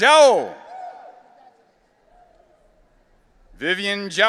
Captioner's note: audience cheering